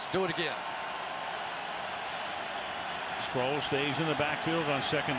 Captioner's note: cheers